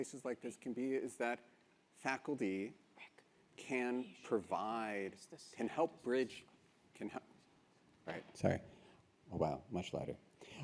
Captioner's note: adjusting microphone